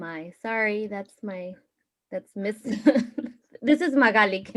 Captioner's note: laughs